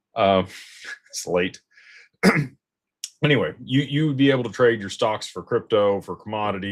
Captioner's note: clears throat